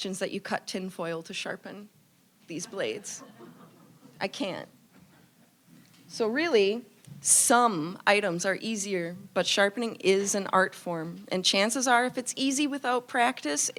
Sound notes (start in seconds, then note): 2.8 audience laughing